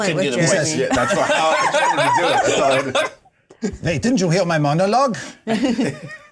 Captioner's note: laughter